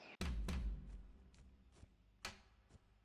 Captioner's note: footsteps clumping